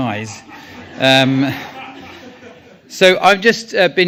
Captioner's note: audience laughs